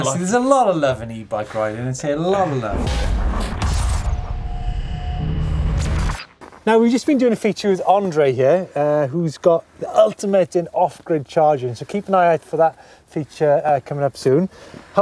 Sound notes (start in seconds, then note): 2.4 percussive rumbling